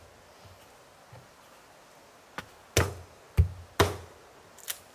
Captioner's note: wood breaking